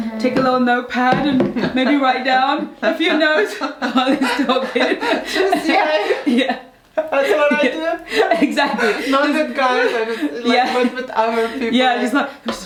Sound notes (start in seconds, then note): 5.0 both laughing